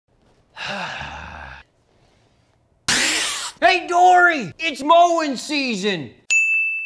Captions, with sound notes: (sighs) (spits water) - Hey, Dory! It's mowing season!